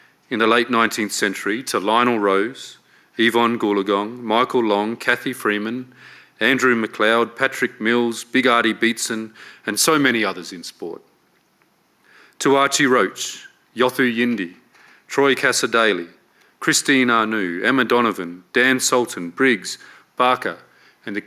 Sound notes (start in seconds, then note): none